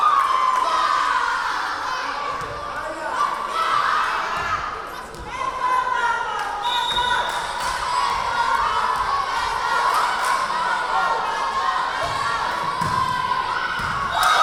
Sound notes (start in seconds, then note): 0.0 cheering; 0.1 yelling; 5.6 yelling; 6.6 whistle blowing; 10.2 chanting